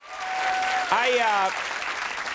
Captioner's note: audience cheering